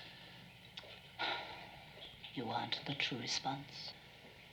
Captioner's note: sighs